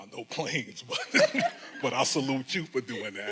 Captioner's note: laughing